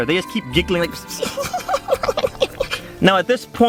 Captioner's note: giggling noises